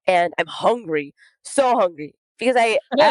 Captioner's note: both laugh